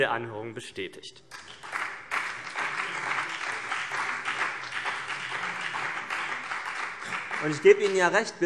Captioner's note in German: Beifall BÜNDNIS 90/DIE GRÜNEN und vereinzelt CDU